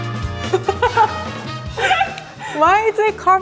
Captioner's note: laughing